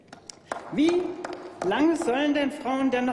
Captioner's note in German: Applaus